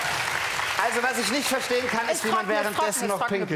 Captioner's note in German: Applaus